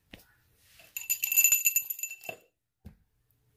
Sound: bell rings

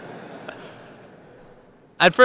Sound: laughs

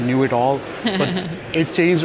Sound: laughs

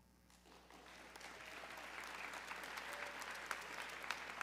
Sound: audience clapping

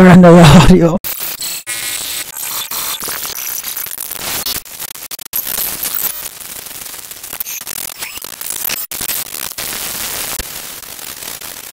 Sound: various glitchy noises playing

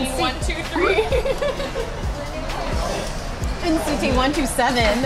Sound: laughing

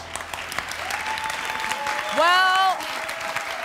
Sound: applause

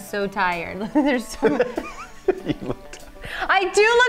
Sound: both laugh

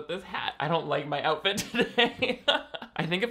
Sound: laughing

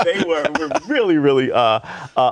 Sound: laughter

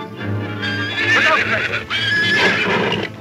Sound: cougar growling; horses screaming; cougar roars

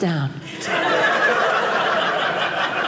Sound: audience laughing

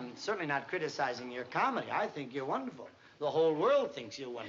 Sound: none

